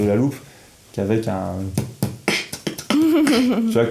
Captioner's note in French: Beatbox